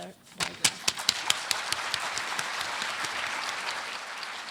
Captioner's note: applause